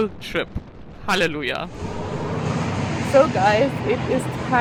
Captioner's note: traffic whirring